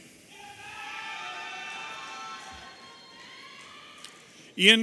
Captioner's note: audience cheering